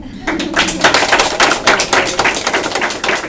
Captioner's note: applause